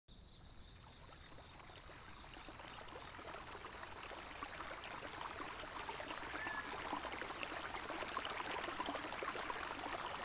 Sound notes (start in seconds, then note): 0.0 water bubbling